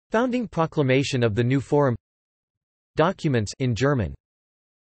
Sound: in German

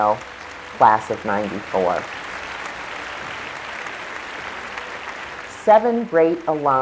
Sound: applause

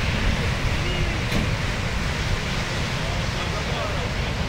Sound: machinery whirring

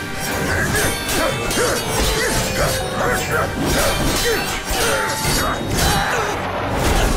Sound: grunting

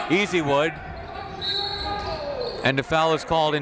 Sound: whistle

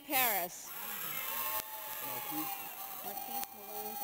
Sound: audience cheers

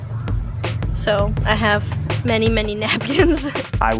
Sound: chuckles

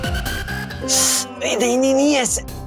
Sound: sucks teeth

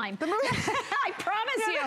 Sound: laughter

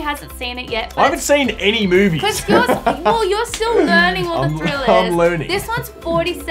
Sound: laughter

